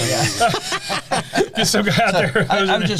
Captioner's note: laughter